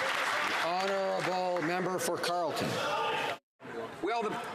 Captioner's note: some Applause